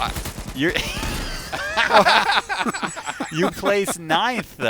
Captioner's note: laughter